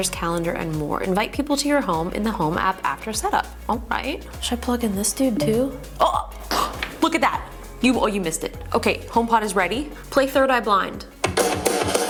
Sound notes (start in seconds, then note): 5.4 HomePod mini beeps